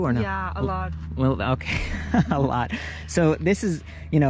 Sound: laughs

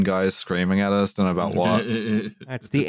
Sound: laughs

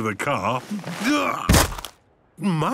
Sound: thuds

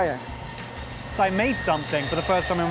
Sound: blade spinning

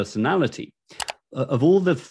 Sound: mouse clicking

